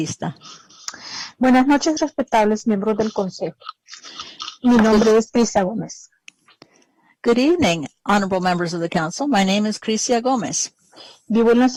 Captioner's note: speaking spanish